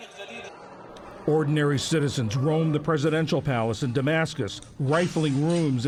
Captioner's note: voice-over